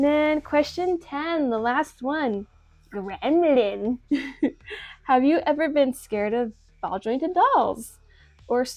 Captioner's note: small laugh